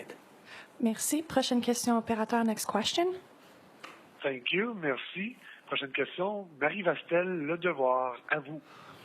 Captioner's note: speaking French